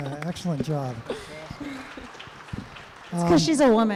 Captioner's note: applause